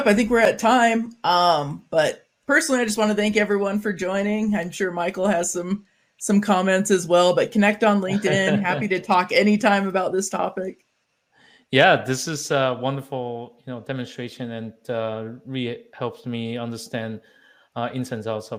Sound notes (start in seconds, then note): 8.1 chuckling